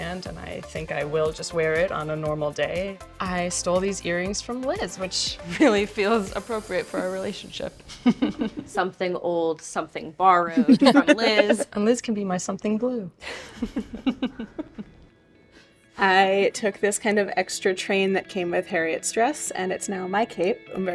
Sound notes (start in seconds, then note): 7.9 all chuckling; 14.4 chuckles